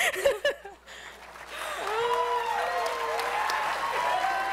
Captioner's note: applause